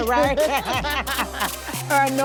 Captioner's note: both laughing